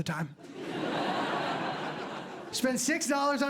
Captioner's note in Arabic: ضحك